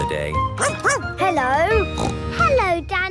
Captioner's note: barking; snorting